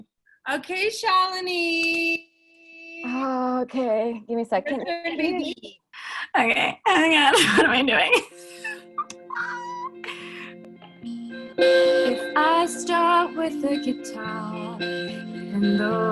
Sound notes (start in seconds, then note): 4.6 loud giggles; 8.4 laughs loudly; 10.1 somber music begins